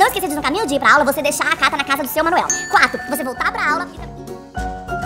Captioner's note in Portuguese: falando muito rápido